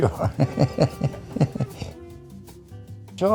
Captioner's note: laughs